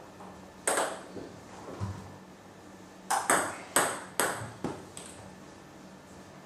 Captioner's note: balls ping pong hitting continues